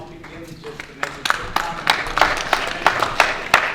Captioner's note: audience clapping